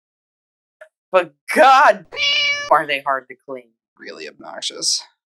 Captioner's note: meow